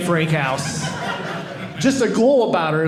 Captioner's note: audience laughing